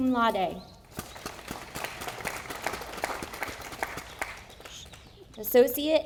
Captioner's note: audience applauding